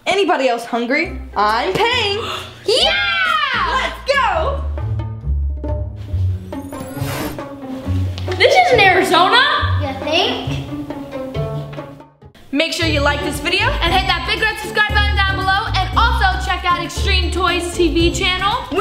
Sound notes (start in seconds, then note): 5.2 quirky music; 7.3 air whooshing